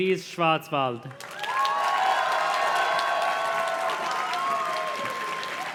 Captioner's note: audience cheers and claps